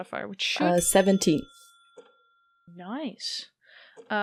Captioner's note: bell dings